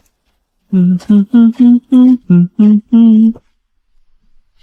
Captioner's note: humming in agreement